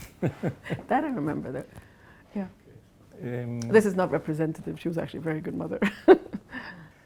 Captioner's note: laughs